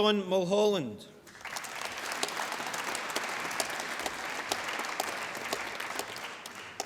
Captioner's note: applause